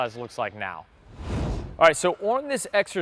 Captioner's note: swoosh Sound